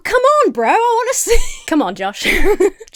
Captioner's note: Emma laughs